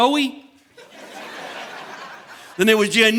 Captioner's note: audience laughing